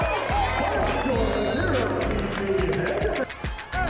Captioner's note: crowd drowns out announcer; intense upbeat music